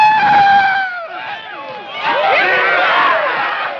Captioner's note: soldiers whooping and cheering